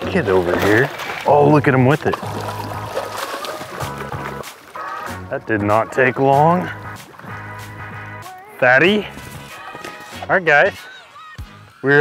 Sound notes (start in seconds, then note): 3.0 water splashing